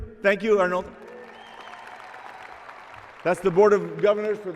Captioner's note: applause and cheering